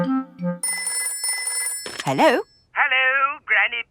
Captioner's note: telephone ringing